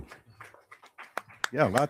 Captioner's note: crowd applauding